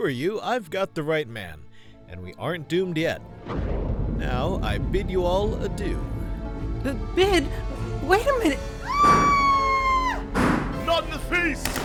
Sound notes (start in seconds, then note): 3.4 thunder crash; 8.8 screaming; 9.0 gunshots